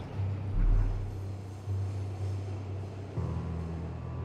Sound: train stopping

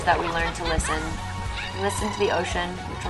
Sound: laughs; trills tongue

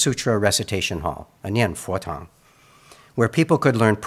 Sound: speaks in Mandarin

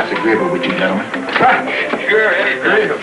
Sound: laughs

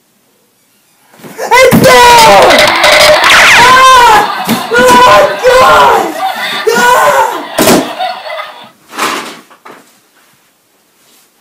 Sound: screaming

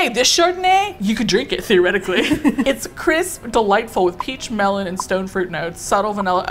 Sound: laughs

